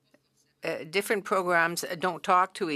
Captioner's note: speaking French